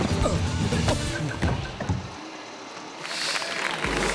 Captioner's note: thuds; audience clapping